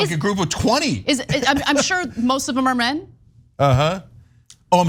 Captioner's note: laugh